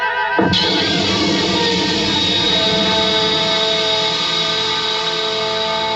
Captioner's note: porta emite um sinal sonoro; explosões de estalos; copos estalando